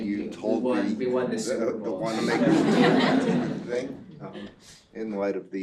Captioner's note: laugh